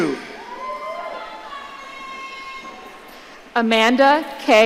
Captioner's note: audience cheering